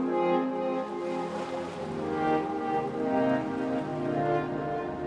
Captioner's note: waves crashing